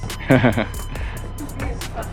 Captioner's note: nervous chuckling